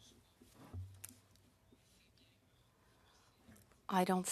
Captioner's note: speaking French